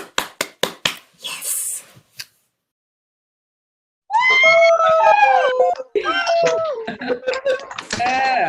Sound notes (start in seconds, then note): 4.1 cheering